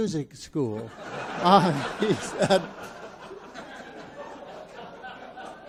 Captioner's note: audience laughs